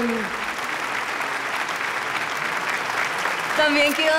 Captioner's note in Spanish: Aplausos